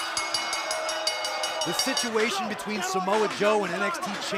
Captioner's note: bell ringing